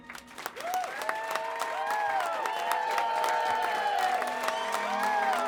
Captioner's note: people clapping